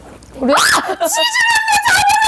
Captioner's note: startled